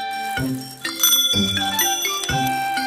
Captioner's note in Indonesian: Suara bel sepeda